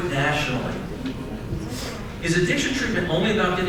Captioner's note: crowd murmurs agreement